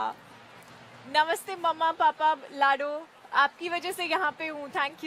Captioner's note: speaks in Hindi